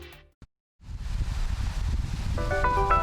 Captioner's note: wind whooshing; bright melodious music